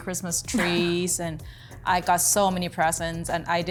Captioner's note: laughing